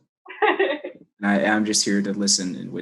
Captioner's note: laughs